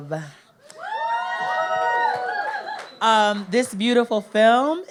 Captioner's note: audience cheers